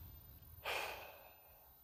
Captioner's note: sigh